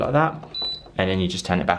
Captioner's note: dehumidifier beeping